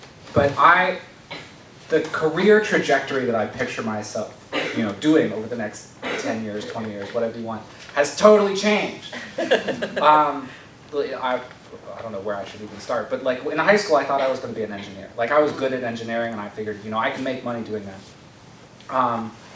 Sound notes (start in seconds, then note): 9.0 laughed